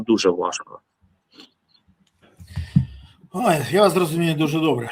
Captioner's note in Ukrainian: сопіння